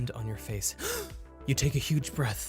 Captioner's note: gasps